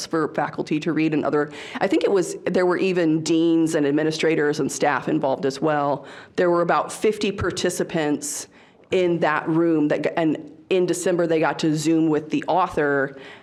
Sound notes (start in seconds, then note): none